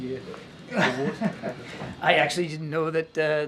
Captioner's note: laughter